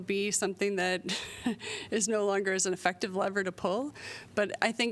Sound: laughter

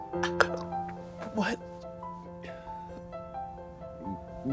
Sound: gasps

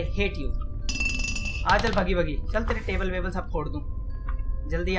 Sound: bottle Falls

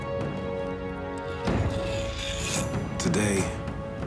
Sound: metallic scraping

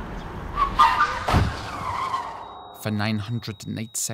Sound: car brakes squealing

